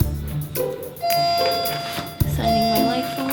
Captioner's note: upbeat music; elevator dinging